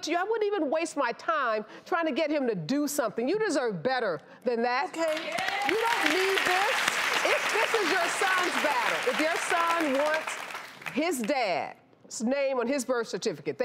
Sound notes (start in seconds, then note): 5.0 audience claps